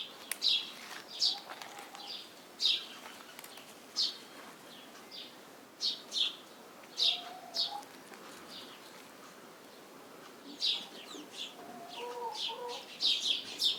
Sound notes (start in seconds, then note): 0.7 branches cracking; 7.0 birds cooing